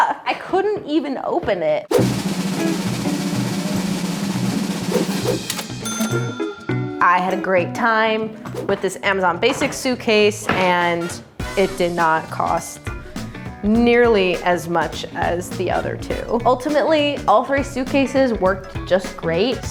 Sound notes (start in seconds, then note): 1.9 drumroll; 5.4 cash register dings